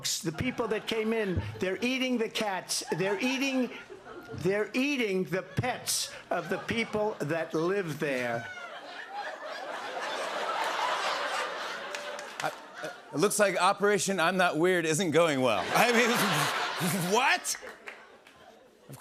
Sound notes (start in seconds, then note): 8.4 laughter